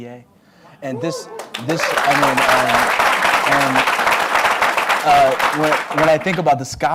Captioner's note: applause